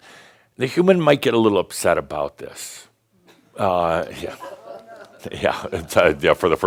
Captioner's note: a few chuckles and someone says “Oh, no!”